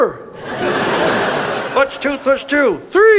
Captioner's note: audience laughs